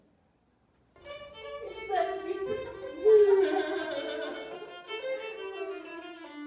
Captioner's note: laughter; violin plays